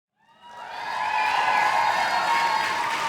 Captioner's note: cheers